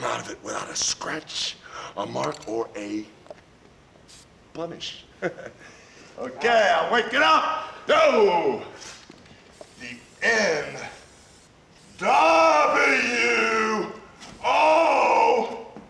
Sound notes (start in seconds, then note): 5.0 chuckles